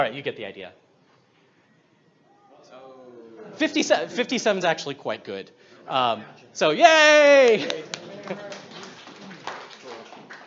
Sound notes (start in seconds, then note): 2.2 audience aw's; 7.2 audience claps